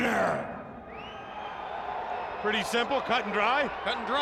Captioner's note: crowd cheering